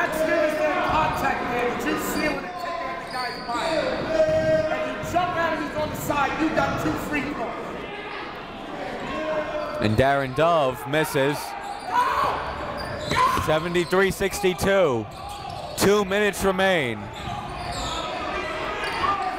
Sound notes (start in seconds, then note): 0.0 coaches yelling; 1.1 crowd talking